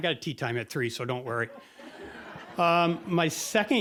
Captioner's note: audience laughing